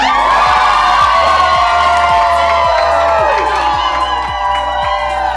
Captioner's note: cheering